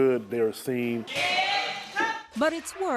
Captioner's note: people yelling in unison